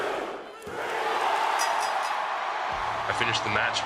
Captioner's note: fans chanting; bell ringing